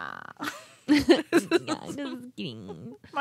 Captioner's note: laughing